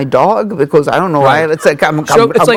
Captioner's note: laughing